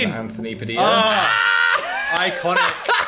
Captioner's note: laughs